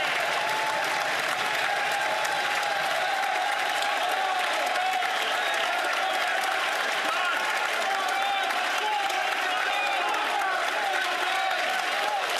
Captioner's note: some Applause